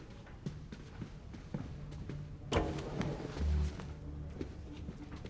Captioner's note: footsteps click